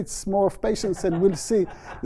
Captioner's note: laughter